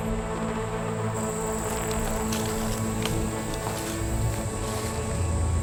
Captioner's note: crickets chirping